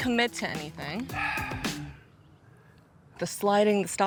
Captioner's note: Sylvester sighing